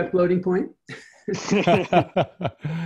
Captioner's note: laughing